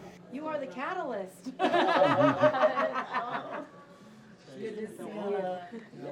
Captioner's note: laughing